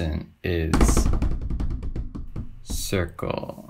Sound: stamping

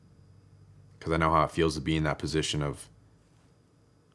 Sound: none

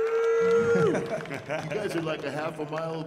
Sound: audience cheering

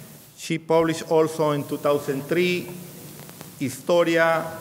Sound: speaking in a foreign language

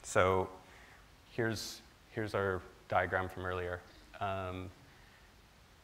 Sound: none

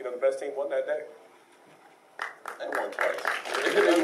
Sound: applauding

